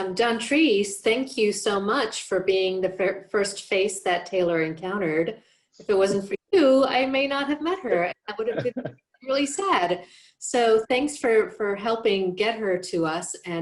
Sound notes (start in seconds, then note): 8.3 laughs